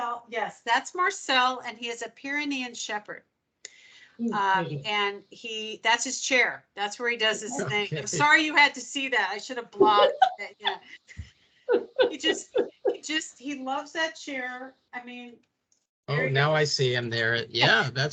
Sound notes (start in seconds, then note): 9.8 laughing